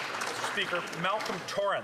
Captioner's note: speaking French